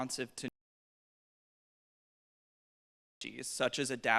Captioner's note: audio cuts out